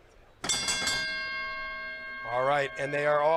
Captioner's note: bell ringing